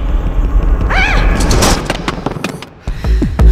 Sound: screams in shock

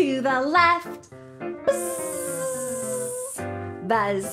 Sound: buzzing

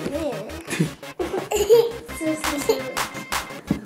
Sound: laughter

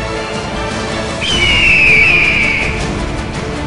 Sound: epic hawk squawk

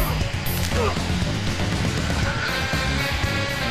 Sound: man groaning; bone cracking

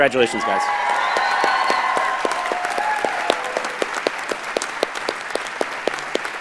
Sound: audience cheers and applauds

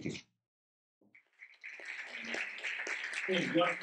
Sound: audience clapping

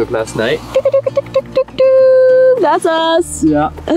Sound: exclaiming

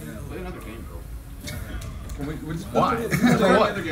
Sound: laugh

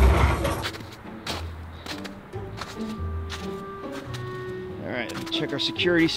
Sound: toys crash; footsteps crunch in snow

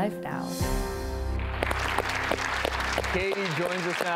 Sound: audience claps

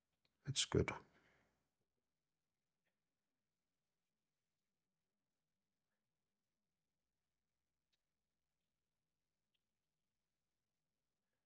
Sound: silence

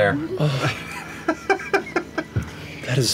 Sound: laughter

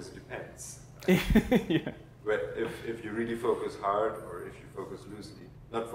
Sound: laugh

